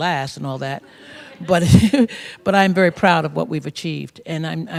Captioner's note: laughs